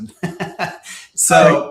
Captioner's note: laughing